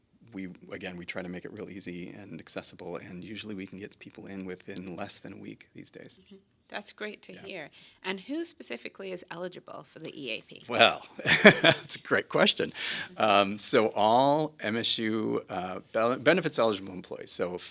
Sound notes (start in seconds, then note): 11.2 laughs